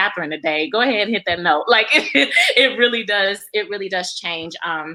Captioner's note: laughs